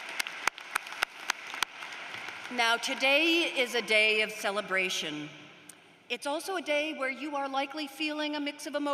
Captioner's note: applause